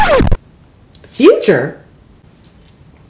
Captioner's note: record scratches